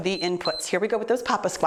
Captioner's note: timer beeps